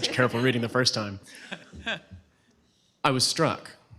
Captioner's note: laughter